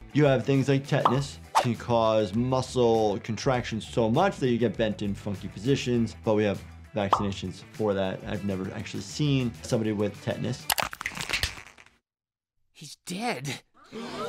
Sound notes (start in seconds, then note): 10.7 bones crunch